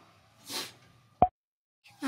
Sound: sniff

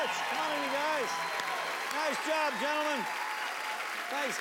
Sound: cheers and applause

